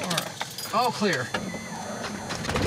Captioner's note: controls humming